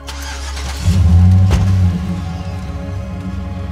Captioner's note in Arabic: مؤثرات صوتية لمحرك سيارة